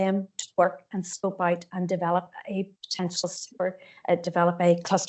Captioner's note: audio distorts 42.54